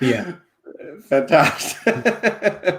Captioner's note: laughing